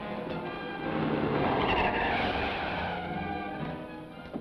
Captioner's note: tires squeal